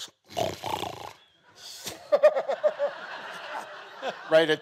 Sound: snorts; laughs; audience laughing

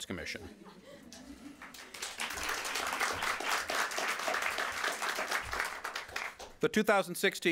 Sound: applause

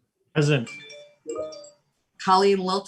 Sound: phone chimes

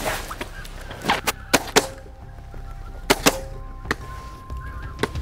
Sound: shotgun fire

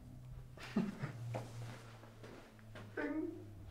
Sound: crew Member laughs

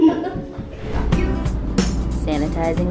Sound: laughing

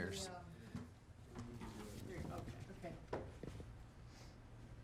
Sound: people chattering

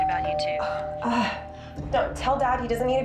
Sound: doorbell rings

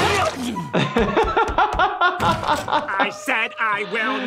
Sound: laughs

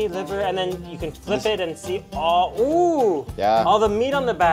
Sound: exclaims

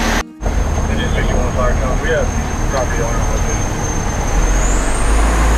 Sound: truck engine running

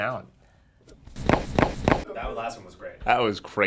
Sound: bones cracking

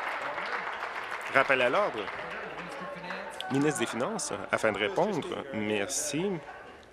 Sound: applause

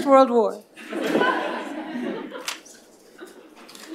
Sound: laughter

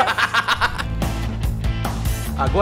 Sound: laughs and break song starts

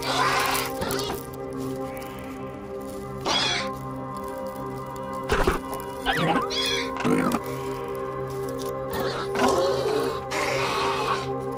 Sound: Gallimimus sounds

